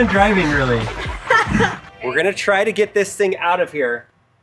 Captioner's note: laughs